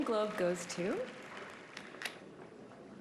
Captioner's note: applause